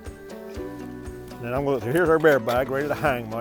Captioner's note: upbeat music; contents rattling